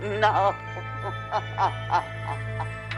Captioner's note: menangis